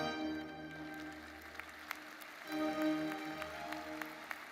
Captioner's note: audience applauds